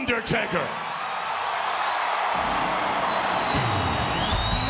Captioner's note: audience cheering